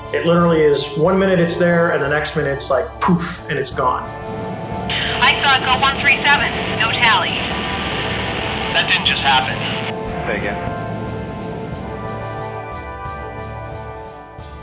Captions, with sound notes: - It literally is, one minute it's there, and the next minute it's like poof, and it's gone. - [Voiceover] I saw it go 137. No tally. - [Voiceover] That didn't just happen. - [Voiceover] Say again.